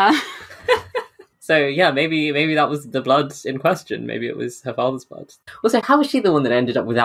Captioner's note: laughing; laughs